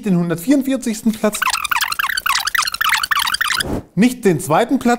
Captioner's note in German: Vorspul-Geräusch